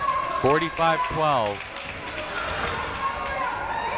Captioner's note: clapping